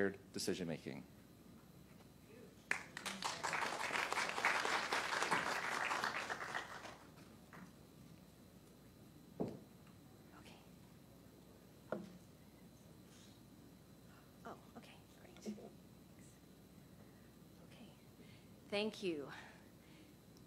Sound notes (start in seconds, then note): 4.7 applause